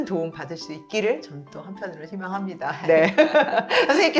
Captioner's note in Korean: 웃음